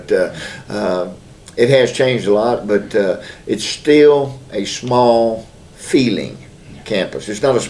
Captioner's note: laughs